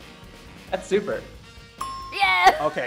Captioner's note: dinging noise